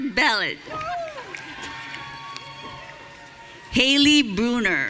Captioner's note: audience cheering